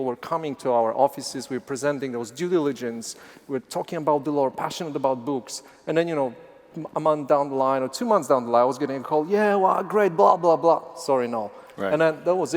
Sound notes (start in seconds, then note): none